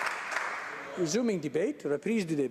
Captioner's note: applause